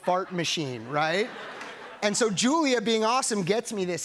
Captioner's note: laughter